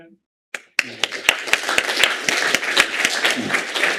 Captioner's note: applause